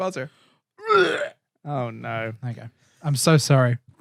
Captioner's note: vomiting Sound